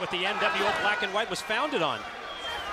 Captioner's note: crowd chatter